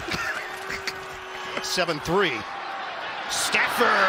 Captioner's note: laughter